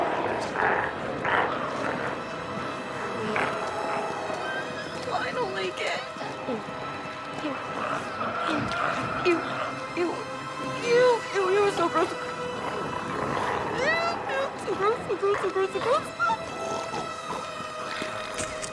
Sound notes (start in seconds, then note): 0.1 glowzies growling; 6.0 squeals; 17.7 squeals